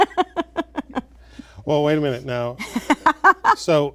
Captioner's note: laughter